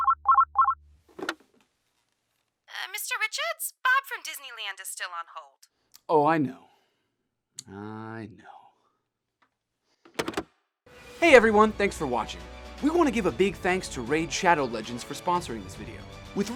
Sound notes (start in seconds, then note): 0.0 phone rings; 10.1 phone hangs up